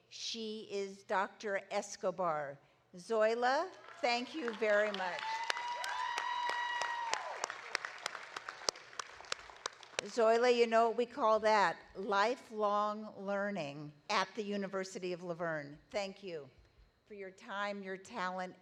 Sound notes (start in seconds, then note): 4.2 audience applauding